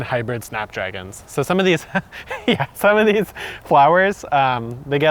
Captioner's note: laughs